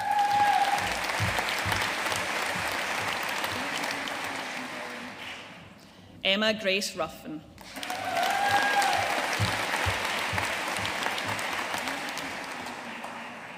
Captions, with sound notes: (AUDIENCE CHEERING AND APPLAUDING) Emma Grace Ruthven. (AUDIENCE CHEERING AND APPLAUDING)